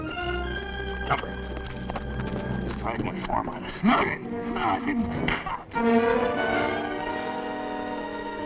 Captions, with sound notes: - Jumper. You tried to inform on us. - No, I didn't. No, I didn't! (fist thuds)